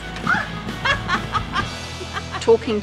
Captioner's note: laughter